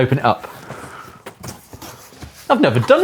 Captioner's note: box scrapes